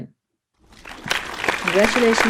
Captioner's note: audience applauds